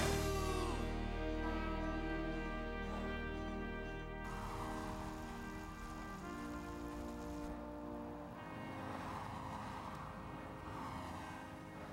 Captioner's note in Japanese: 警笛